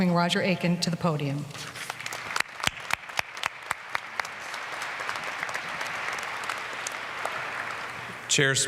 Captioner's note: applause